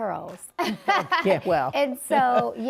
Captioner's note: laughs